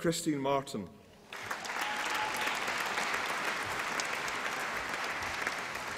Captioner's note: applause and cheering